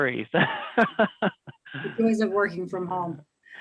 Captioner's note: laughing